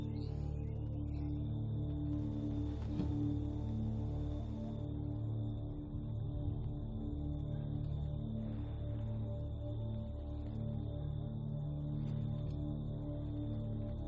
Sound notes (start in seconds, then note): 6.1 crickets chirping; 6.1 tense music